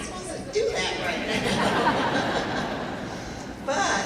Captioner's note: laughing